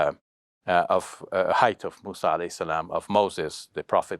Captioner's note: foreign language